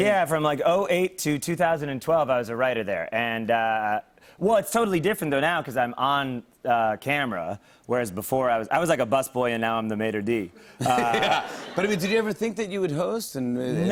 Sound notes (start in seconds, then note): 10.8 laughter